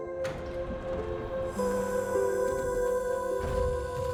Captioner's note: whirring